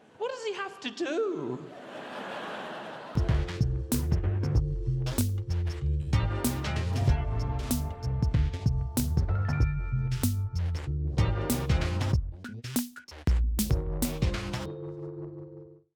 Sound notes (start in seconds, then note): 1.6 audience laughs; 3.6 upbeat music